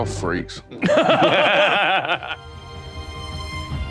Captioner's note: all laughing; orchestral music